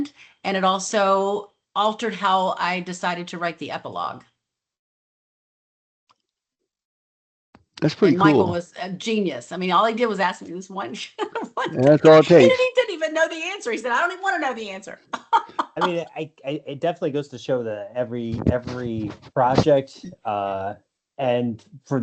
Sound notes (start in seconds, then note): 11.1 laughs; 15.0 laughs